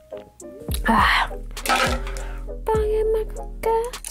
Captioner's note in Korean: 와장창